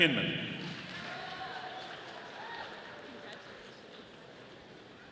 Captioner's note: audience applauding